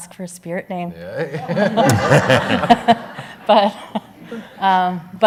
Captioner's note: everyone laughs